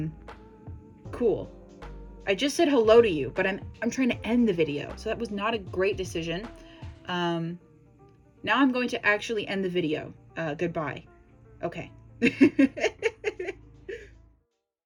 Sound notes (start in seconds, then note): 12.2 laughs